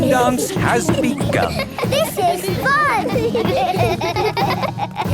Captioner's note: laughter